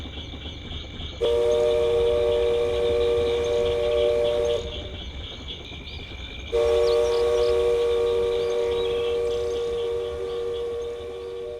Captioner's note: train whistles